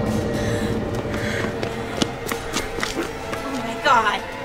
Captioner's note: whimpering